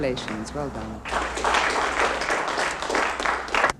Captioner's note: applause